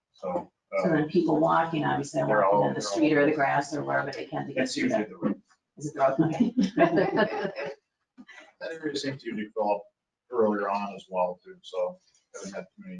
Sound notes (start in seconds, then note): 4.6 speaking faintly; 5.9 attendees laughing